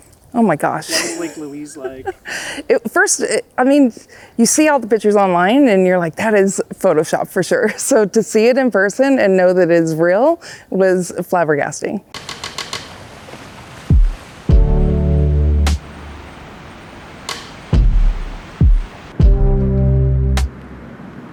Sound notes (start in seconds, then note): 0.8 chuckles; 12.2 audio clacking; 12.2 water sloshing; 14.4 gentle music